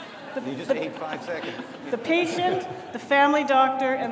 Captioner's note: audience laughs